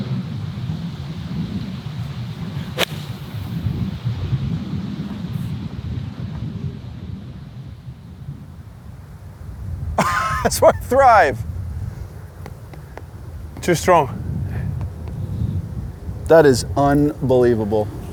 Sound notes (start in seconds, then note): 10.0 chuckles